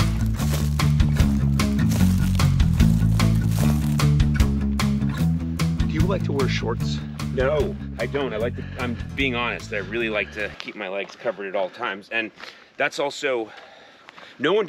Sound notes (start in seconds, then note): 0.2 upbeat music; 2.7 shrub crunching